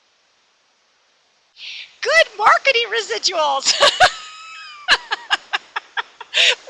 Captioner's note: laughs